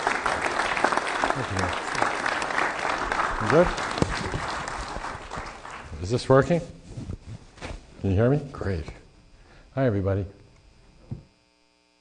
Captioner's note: clapping